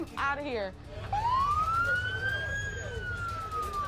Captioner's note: ambulance siren